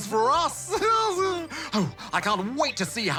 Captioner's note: laughs